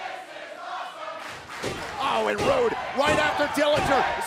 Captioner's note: fans chanting